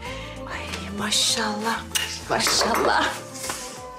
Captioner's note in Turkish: Öpücük sesi; Masaya vurma sesi